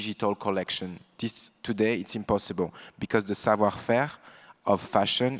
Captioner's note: French language